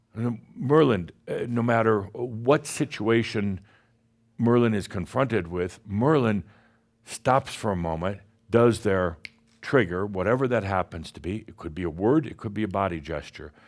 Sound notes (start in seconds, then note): 9.2 snap!